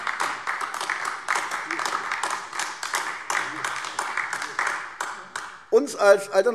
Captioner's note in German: Beifall AfD